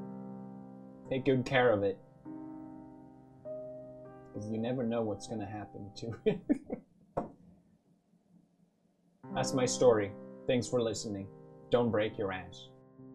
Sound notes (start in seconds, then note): 6.1 laughter